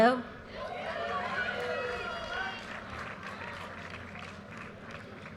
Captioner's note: audience cheers and applause